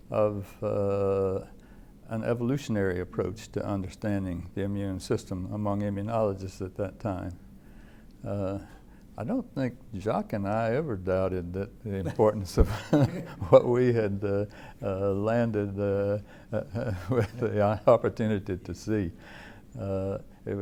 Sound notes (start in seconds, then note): 12.6 chuckle